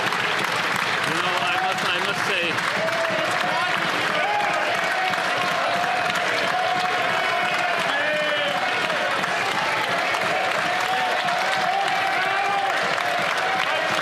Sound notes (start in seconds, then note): 2.8 some Applause